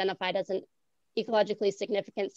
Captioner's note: none